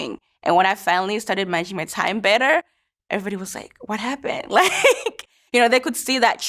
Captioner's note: laughs